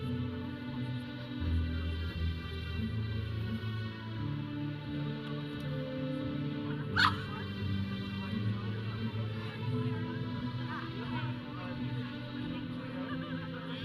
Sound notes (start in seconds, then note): 6.9 audience member laughing; 7.9 audience chattering; 7.9 processional music